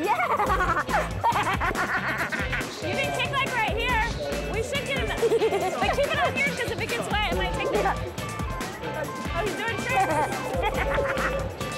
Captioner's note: laughter; laughter